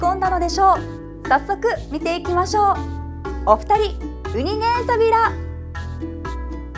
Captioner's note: in Okinawan